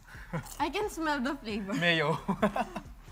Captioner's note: laughs